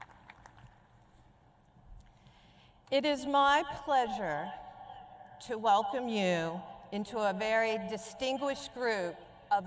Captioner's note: applause